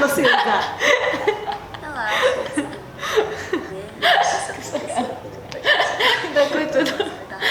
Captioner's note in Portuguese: risos